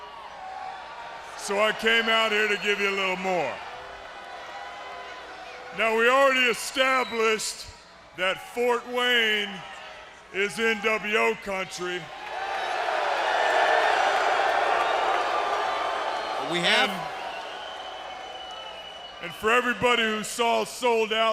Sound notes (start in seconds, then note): 12.2 crowd chatter